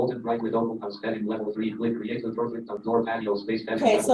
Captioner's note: rapid artificial speech